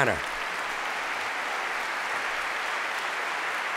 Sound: applause

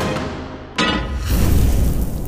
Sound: intense music; pan clanks; burst of flames

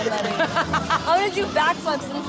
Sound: laughing

